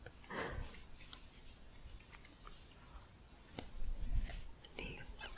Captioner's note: shuffling